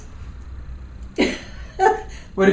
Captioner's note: laughs